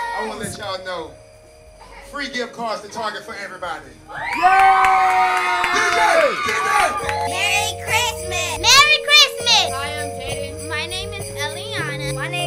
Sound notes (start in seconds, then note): 0.0 crowd; 4.1 crowd cheers; 6.5 christmas bells start ringing